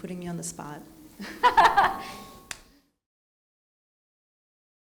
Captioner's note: laughing